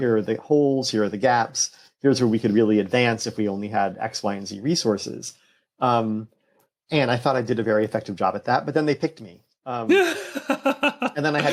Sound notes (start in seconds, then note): 9.9 laughter